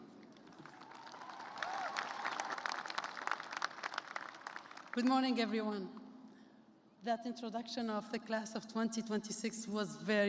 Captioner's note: applause